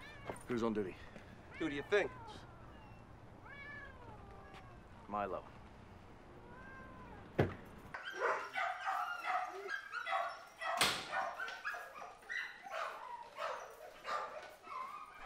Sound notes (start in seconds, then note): 8.0 barking